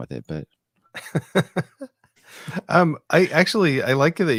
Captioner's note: laughing